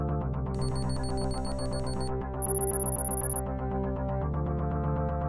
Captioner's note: computer bleeps rapidly